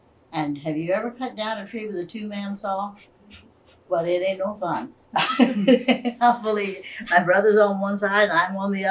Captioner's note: laughs